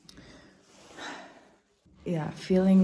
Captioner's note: sighs